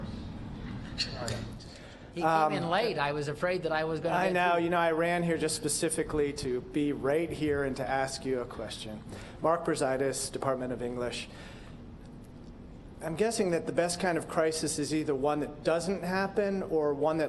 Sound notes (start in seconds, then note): none